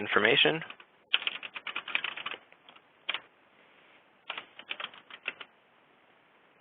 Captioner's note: typing